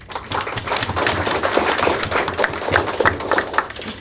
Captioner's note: audience applauds